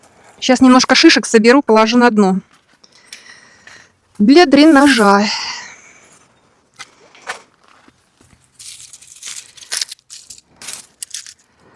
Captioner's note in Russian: вздыхает